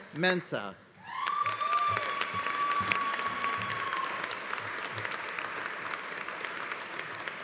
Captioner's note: audience cheering; audience applauding